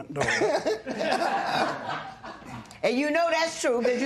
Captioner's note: laughter